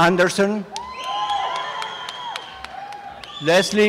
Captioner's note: applause and cheering